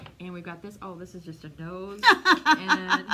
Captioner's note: laughter